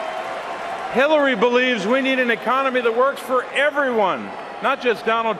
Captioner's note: cheering and applause